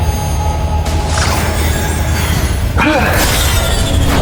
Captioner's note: energy whirring; Hawk grunting; energy whirring